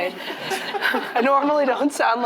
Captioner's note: all chuckles